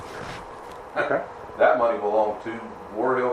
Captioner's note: ha